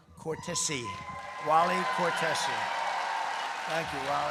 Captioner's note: applause